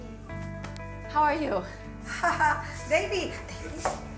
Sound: laughs

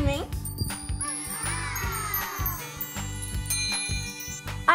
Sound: sparkling sound

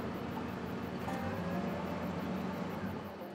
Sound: car approaching noise

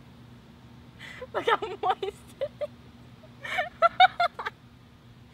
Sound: laughs

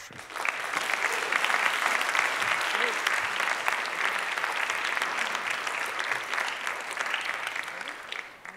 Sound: applause

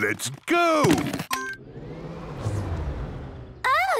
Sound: car chimes; whirring, whirring stops

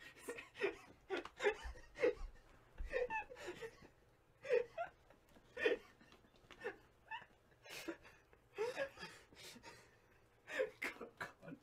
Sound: unstoppable laughter

